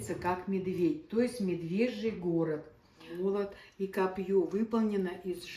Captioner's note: in Russian